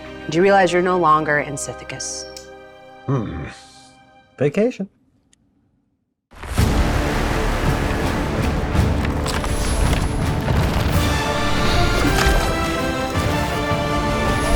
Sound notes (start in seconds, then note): 3.1 groans; 6.6 ominous orchestra music